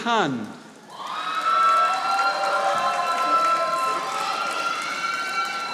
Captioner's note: audience applauding